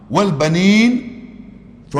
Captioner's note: Arabic